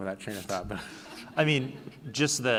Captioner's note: laughing